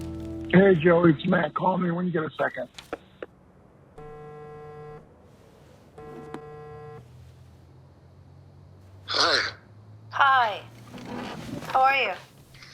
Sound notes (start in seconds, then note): 3.0 click; 4.0 cellphone vibrating